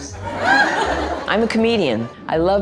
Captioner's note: crowd laughs